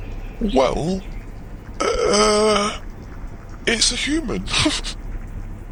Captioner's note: laughs